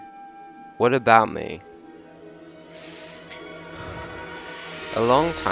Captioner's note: sighs